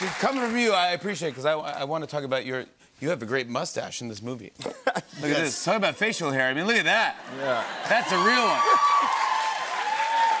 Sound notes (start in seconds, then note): 4.5 laughs; 7.5 cheers and applause